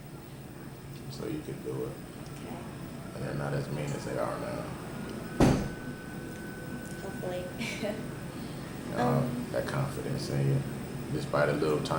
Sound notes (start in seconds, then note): 5.4 bang in background; 7.3 laughs